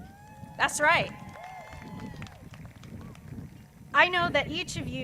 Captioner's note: crowd cheers